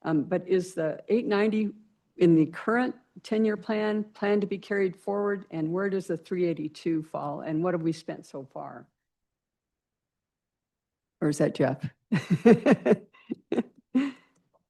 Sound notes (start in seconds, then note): 12.2 laughs